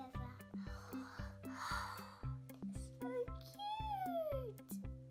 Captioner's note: sighs